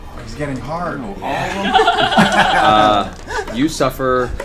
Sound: all laugh

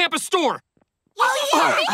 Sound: chattering

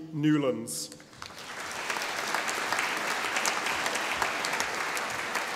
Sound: audience applauding

